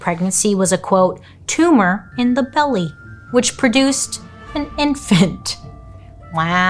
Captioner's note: laughs